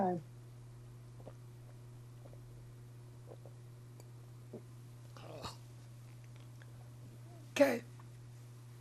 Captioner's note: drinking